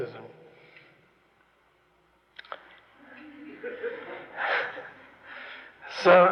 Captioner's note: laughter, laughs